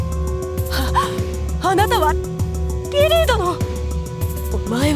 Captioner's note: gasp